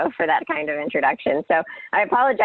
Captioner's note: laughing